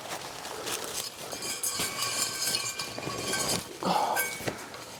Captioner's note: noisy water battle clinking